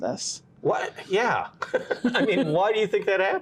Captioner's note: both laughing